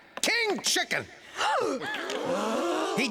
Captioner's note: audience gasps